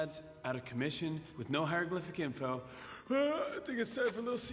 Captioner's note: yawns